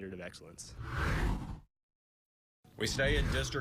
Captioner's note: air whooshes